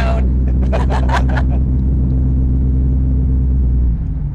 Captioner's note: laughing together